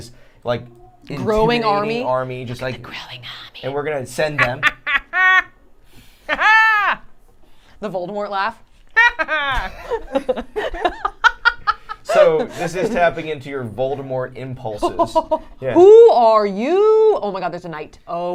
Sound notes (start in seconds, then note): 2.6 whispering; 6.3 dramatic laughter; 9.7 silly laugh